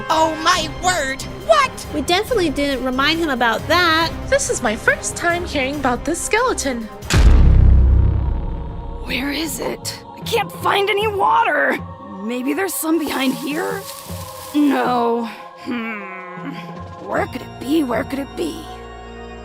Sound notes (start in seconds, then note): 7.0 loud boom